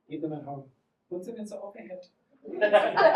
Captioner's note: German accent